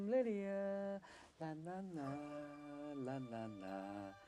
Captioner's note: humming